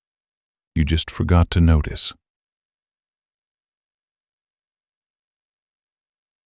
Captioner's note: long pause